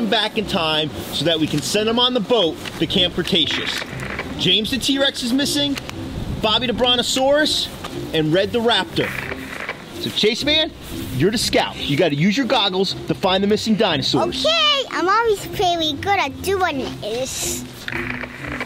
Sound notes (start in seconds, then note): 3.4 static crackles; 8.6 static crackles; 17.4 static crackles